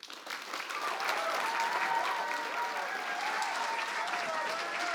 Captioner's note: cheers, applause